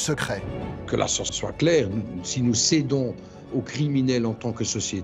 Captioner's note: French spoken audio